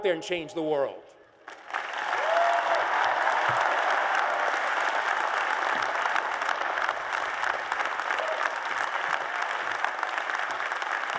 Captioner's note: applause and Cheers